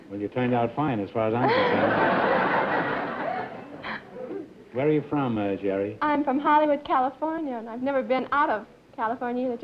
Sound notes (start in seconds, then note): 1.4 laughter